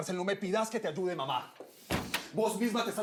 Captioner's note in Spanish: ruido al cerrar